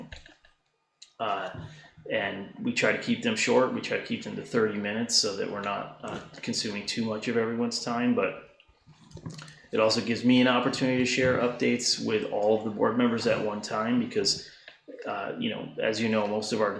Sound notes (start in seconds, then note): none